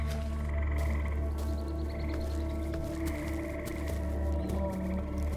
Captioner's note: creatures chirping